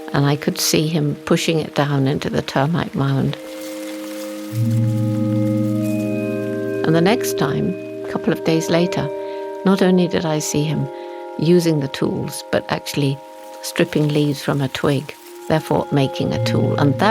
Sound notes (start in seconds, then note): 3.5 grass rustling; 3.5 tranquil music